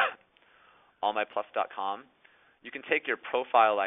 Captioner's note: clears throat